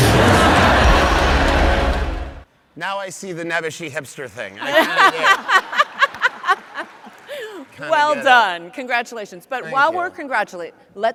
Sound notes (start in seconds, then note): 0.2 audience laughs; 4.6 laughs